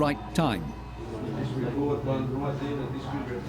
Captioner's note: indistinct chatter